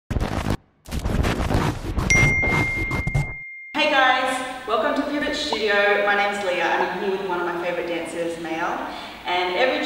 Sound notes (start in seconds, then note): 0.1 record scratching; 2.1 ding